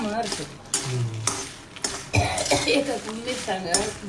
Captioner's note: coughs